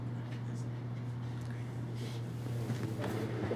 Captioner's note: distant chatter